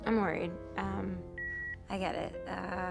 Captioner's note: line beeps